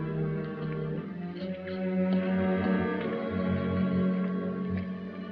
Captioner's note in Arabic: خطوات